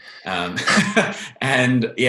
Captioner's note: laughs